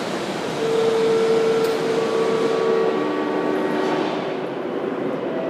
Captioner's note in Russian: сигнал о прибытии поезда